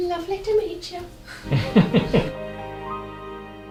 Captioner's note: laughter in background